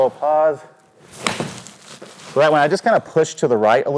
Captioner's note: golf club thudding